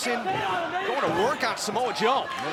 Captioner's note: crowd chatter